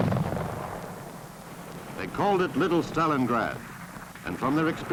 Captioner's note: explosion